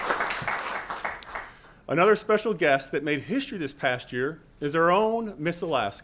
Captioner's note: applause